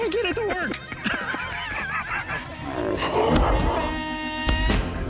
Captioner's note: laughter